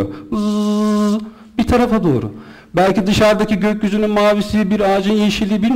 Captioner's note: buzz..buzz